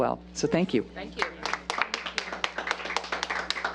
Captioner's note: applause